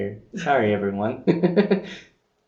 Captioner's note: laughing